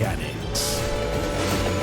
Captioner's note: train horn